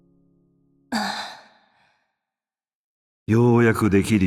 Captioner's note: sigh